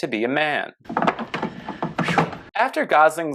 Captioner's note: awkward crunching noises